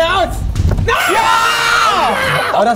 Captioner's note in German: Jubelrufe